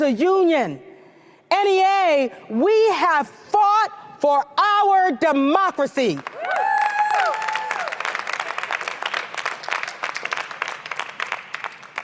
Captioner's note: cheers & applause